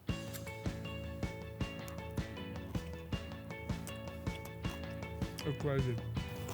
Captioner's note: lively music; starts munching food